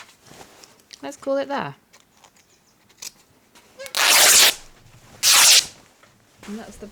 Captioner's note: fabric tearing